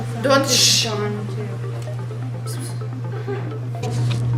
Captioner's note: whispering noises